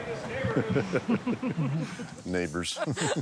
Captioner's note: laughs